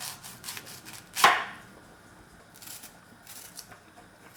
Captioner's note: knife chopping